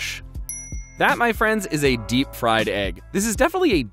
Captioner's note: dings